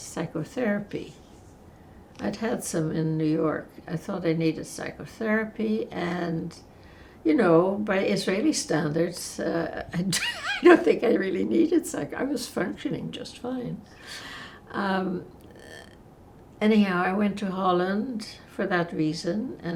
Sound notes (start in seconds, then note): 8.9 laughing